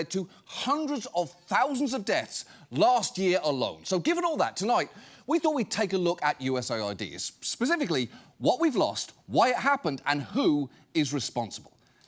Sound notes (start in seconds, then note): none